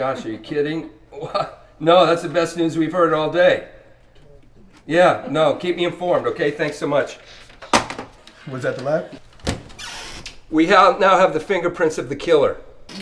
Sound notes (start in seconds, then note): 7.7 phone receiver thuds; 9.2 chair creaks; 9.4 hands thud